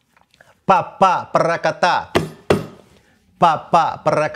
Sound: vocalizes rhythm

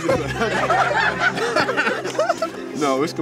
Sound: laughter

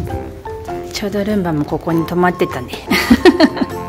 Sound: laughs

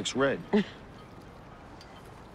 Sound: chuckles

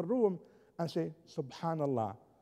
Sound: foreign language spoken

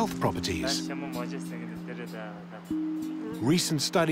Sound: speaking Tibetan

